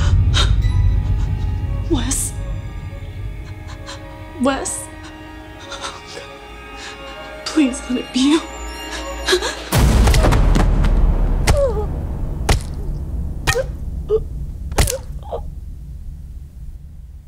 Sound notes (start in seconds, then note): 0.1 gasp; 9.8 baseball bat hit to head sounds; 11.6 baseball bat continues hitting and cracking